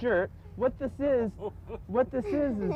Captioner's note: laughter